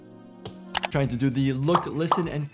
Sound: dramatic music; mouse clicks

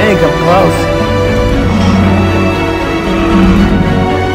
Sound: nasutoceratops growling

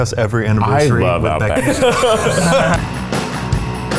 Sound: laughing; upbeat music

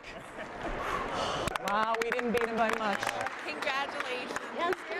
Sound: cheers and applause

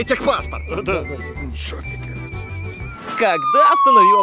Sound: giggling

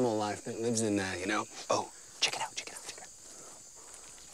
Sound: whispers

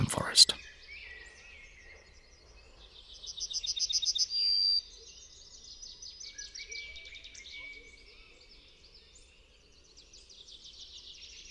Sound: sounds of nature

